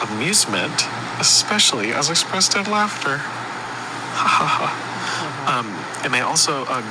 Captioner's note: chuckles